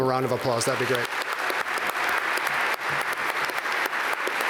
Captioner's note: applause